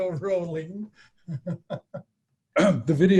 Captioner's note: chuckling